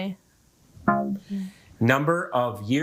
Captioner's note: womp chimes